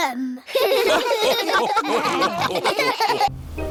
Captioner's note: all laugh